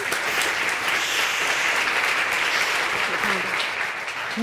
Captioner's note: audience applauds